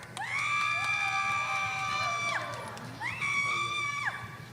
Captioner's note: audience cheering